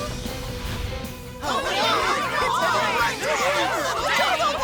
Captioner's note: ohhhhh